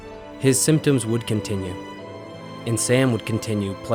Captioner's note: voiceover